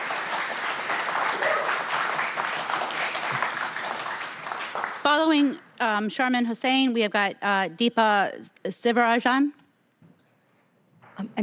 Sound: applause

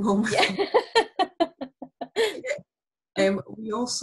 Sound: laughter

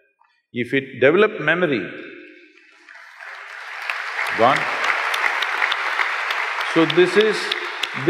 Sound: applause

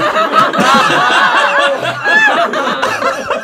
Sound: laughing

